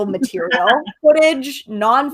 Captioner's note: laughs